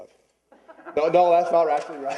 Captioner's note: laughter